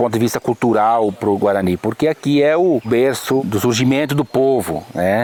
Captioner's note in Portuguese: pássaros cantando